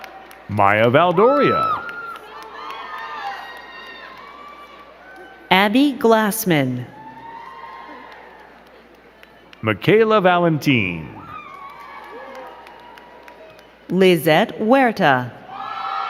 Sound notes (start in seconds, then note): 0.0 crowd cheering and clapping; 6.8 crowd cheering; 11.5 crowd cheering and clapping